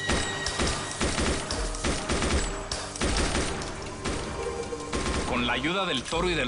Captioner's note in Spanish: Disparos